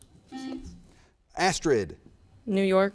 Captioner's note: button beeping